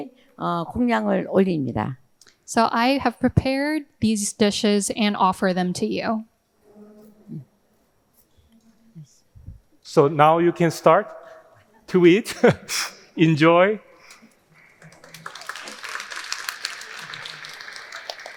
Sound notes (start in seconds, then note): 12.4 laughing; 14.6 audience applauding